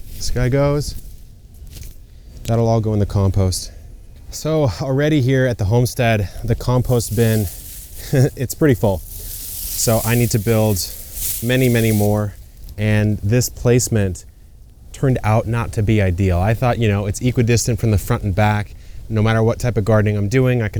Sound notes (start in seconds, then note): 8.0 chuckles